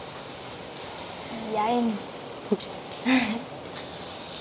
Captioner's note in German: leises Lachen